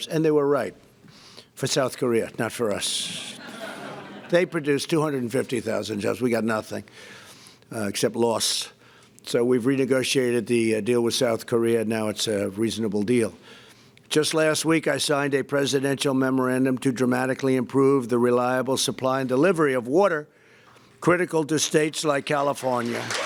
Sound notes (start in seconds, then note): 3.2 laughter